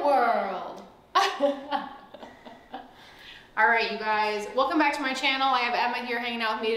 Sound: laughing

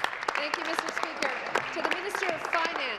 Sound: applause

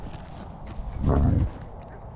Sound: dog growls

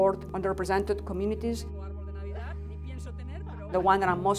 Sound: mothers conversing in Spanish

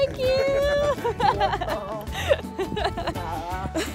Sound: laughter

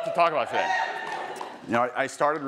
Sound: attendees cheering

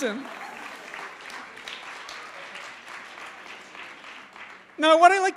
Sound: applause

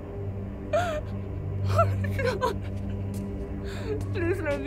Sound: muffled begging

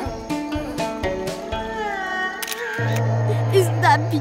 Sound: photography sounds

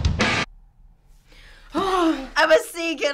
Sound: drum solo; sighing in relief

